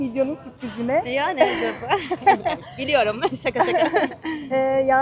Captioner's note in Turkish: kahkaha